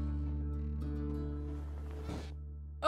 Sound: rustling and creaking

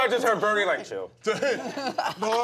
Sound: laughter

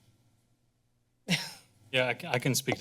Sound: chuckles

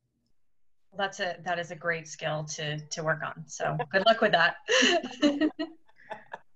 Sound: laughter

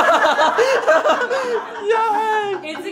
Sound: laughter

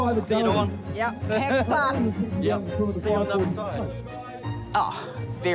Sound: chuckles

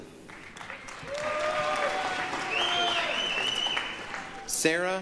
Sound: applause, cheering

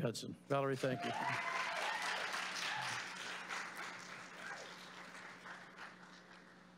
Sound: applause; cheers

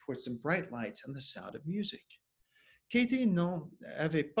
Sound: speaking French

